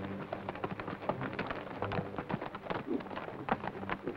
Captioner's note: hooves clop